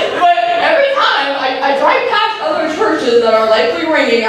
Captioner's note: laughter